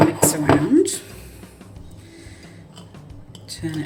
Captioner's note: plate scraping